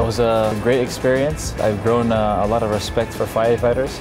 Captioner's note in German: spricht englisch